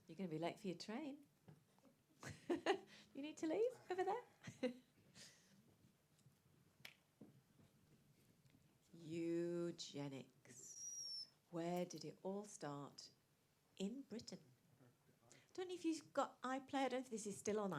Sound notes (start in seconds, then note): 4.4 laughs